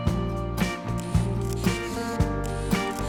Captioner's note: camera shutter and film wind